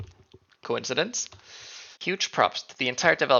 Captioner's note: inhale